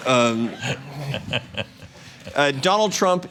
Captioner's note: laughter